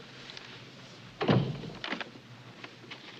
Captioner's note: door closes